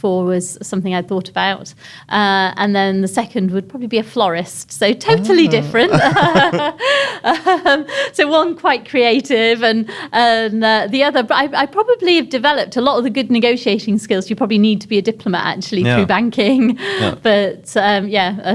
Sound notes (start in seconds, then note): 5.1 laughs